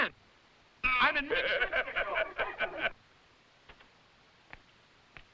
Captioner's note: all laughing